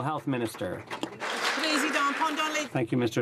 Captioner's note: some Applause